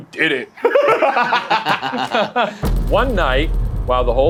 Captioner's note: group laughs